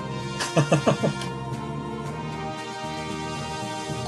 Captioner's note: laughs